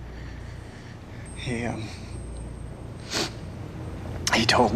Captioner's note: sniffles